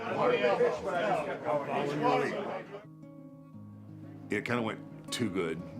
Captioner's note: men chattering